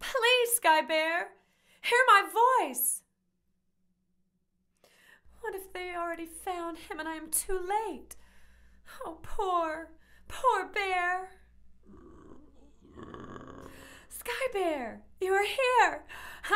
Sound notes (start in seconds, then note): 11.8 bear grumbling